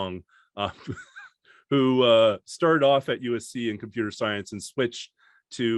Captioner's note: chuckles